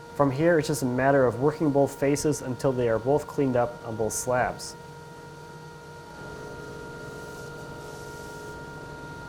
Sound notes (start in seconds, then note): 4.9 machines whirring